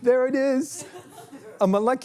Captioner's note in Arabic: ضحك